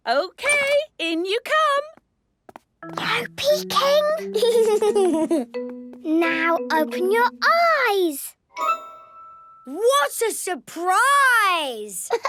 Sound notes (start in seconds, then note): 2.6 whispering; 4.2 Danny giggling